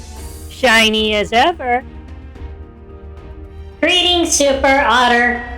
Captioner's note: monotone